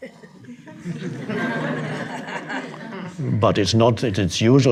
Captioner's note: audience laughing